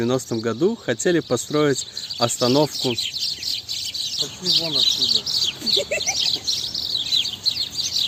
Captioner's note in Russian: птицы мешают записать звук